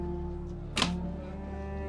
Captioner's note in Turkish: Kapı açılma sesi